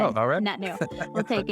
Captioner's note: laughing